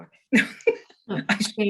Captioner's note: laughing